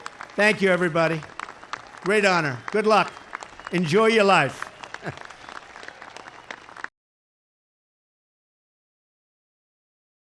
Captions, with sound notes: Thank you, everybody. Great honor. Good luck. Enjoy your life. (Applause.)